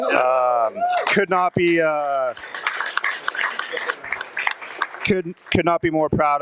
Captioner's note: audience applauding